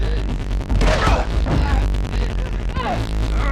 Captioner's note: gunshot